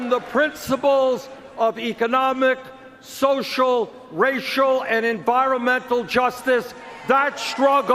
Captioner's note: cheers and Applause